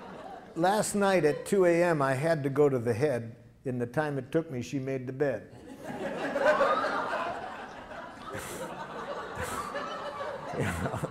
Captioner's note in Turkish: Gülüşmeler